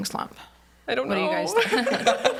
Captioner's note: everyone laughs